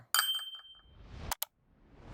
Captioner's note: bell dings